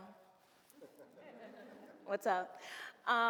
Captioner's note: audience laughs